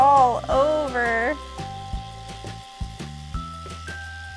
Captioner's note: brushing